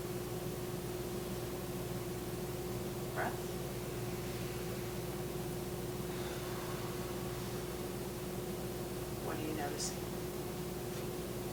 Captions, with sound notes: Breath. (inhaling) (exhaling) What are you noticing?